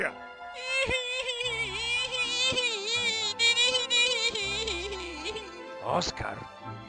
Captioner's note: whining